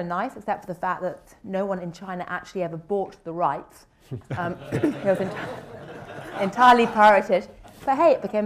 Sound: laughter

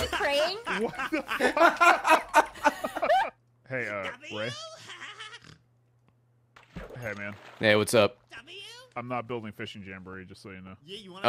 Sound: laughs

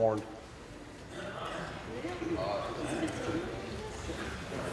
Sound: voice trailing

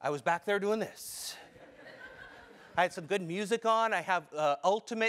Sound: laugh

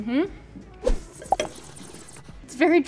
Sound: Madelyn slurping

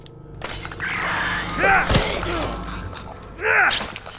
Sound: Clicker croaks; bottle shatters; Clicker moans; Clicker shrieks viciously; Joel grunts

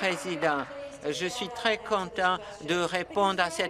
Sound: applause

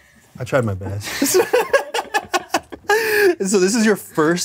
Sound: both laugh

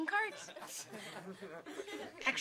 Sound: studentsau lghing

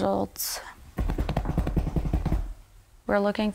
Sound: drumming on table

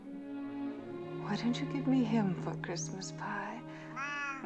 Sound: meows

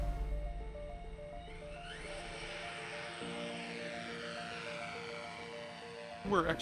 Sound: drone propellers buzzing

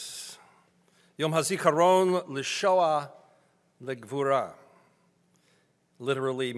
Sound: speaking in foreign language

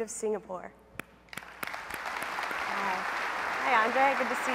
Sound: applause

